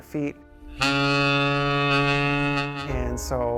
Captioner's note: ship horn